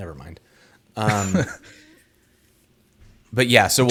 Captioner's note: chuckles